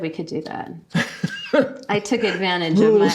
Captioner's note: laughing